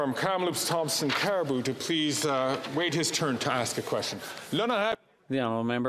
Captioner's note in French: voix de l'interprète